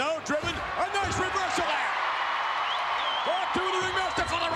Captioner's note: spectators cheering